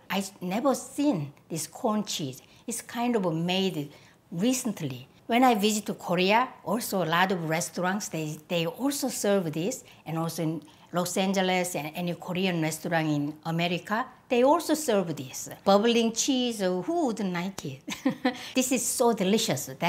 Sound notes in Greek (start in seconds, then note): 17.9 γελάκι